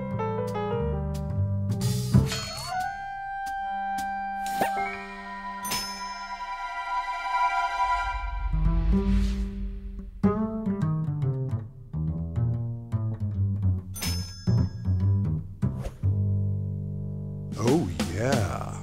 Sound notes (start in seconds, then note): 2.0 ding; 5.4 chimes; 14.0 chimes